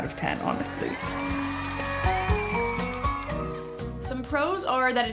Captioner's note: people cheering